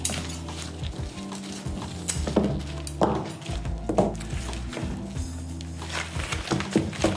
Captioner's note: scissor snip